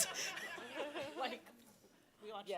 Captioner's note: all laughing